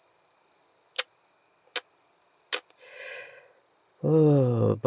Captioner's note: tongue clicking